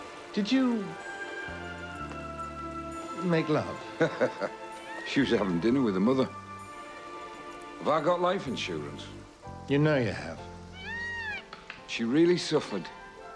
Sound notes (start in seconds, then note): 3.9 Harry laughs